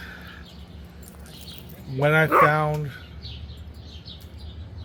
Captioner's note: dog barking